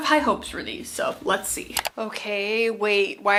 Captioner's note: mouse clicking